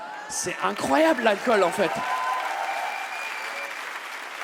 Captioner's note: audience cheers and claps